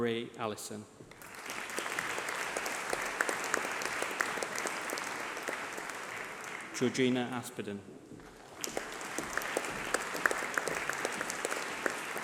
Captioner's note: applause